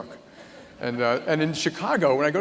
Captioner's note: laughter